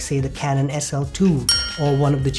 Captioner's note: chime